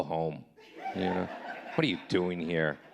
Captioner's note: audience laughing